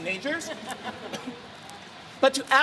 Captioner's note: audience laughter